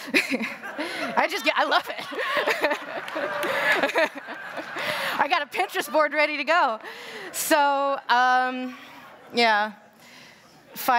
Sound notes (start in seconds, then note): 2.8 applause; 3.5 laughter